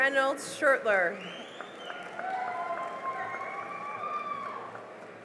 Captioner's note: cheering and applause